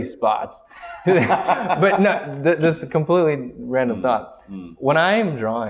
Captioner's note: laughter